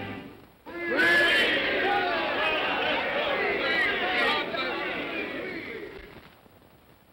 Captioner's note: indistinct cheer